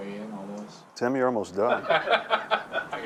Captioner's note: laughter